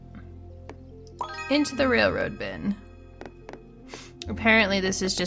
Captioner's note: bling noise